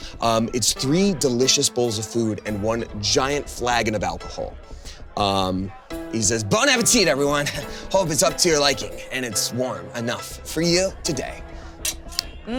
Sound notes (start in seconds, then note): 4.5 customers chattering faintly; 4.7 joyful music